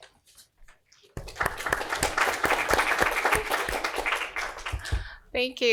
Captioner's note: applause